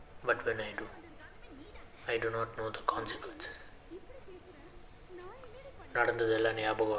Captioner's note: Recording M7300 still playing on phone